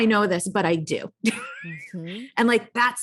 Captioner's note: laughs